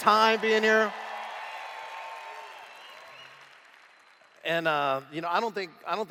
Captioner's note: cheers